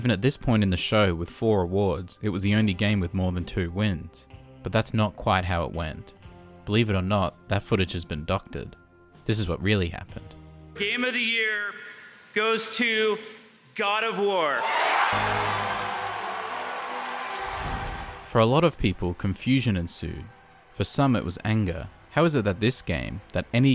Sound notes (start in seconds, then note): 14.6 Crowd cheers and applauds, God of War music plays